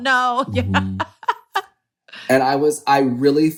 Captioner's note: laughs